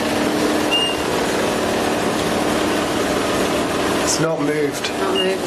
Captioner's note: device beeping